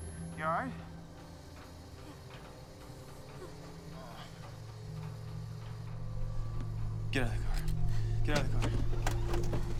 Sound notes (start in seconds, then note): 1.9 Dexter groans